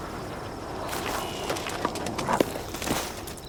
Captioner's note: dog running